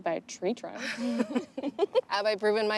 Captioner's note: Kimberly and Bethany laugh